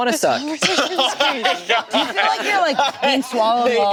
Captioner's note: group laughing